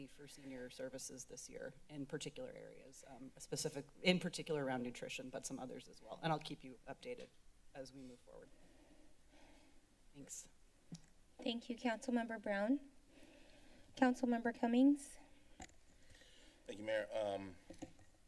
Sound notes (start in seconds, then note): 8.6 silence; 10.8 mic Thumps; 13.2 silence; 15.2 silence